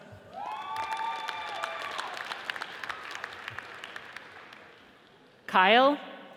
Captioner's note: audience cheers and applauds